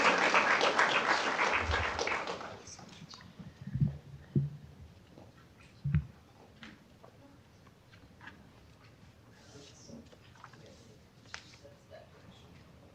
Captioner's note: applause